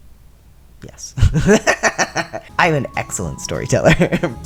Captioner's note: laughter